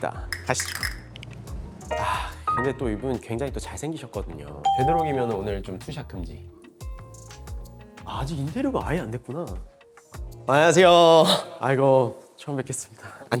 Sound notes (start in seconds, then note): 1.9 sigh